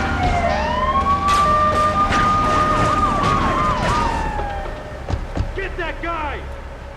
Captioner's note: siren wailing